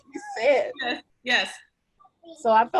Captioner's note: laughs